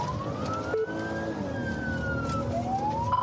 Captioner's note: siren blares